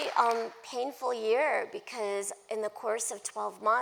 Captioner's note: applause